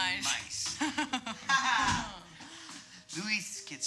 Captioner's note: laughing